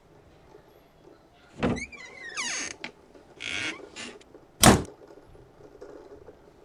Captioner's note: door opens and closes